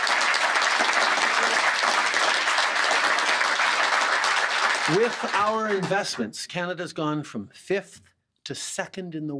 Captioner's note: applause